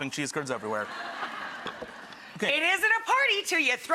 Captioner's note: laughing